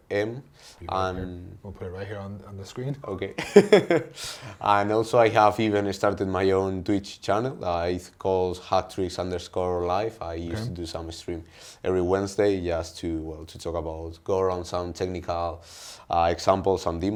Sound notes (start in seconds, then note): 3.4 laughs